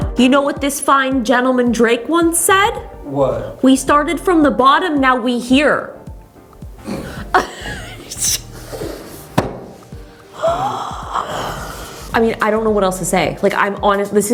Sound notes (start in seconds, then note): 6.8 laughs